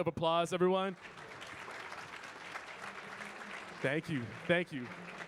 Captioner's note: audience clapping